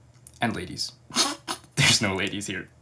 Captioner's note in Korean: 비웃음